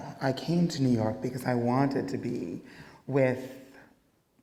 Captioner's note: none